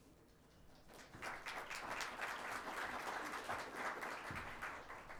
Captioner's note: audience applauding